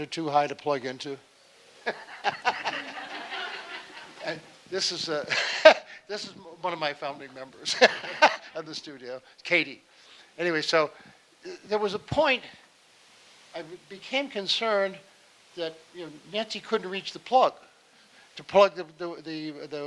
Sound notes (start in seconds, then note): 1.7 laughing; 1.8 audience laughing; 7.0 laughing